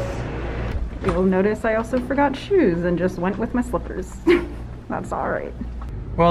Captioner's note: laughs